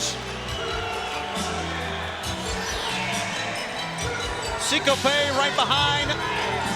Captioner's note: applause